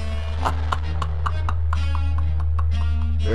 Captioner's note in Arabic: يضحك